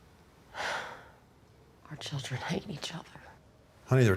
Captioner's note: sighs